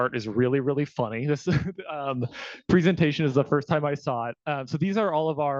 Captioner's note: laughing